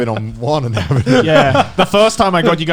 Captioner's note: laughing